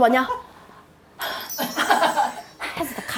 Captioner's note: self satisfied